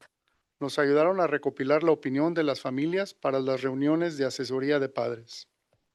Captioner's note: non-english speech